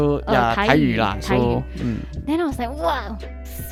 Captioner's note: Taiwanese